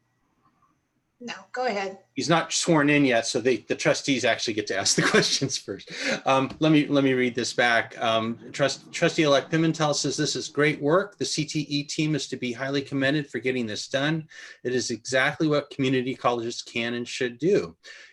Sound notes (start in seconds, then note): 4.8 laughter